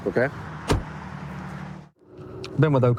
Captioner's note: door bangs